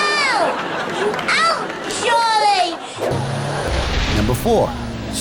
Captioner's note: shouting